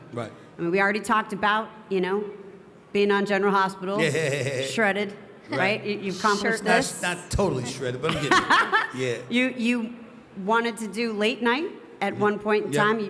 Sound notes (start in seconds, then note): 4.0 Stephen laughing; 8.0 Steph laughing